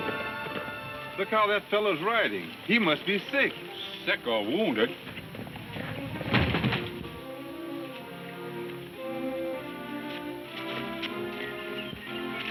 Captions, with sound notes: - Look how that fellow's riding. He must be sick. - Sick or wounded. (body thudding) (dramatic music)